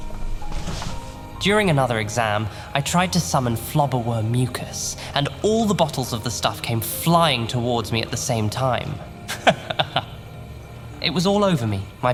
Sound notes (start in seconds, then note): 9.3 he chuckles